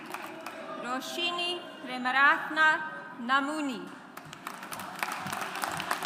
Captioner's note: audience applauds